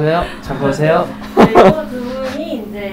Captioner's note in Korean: 하하